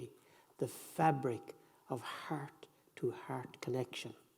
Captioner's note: none